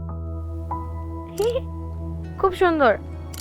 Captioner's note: camera click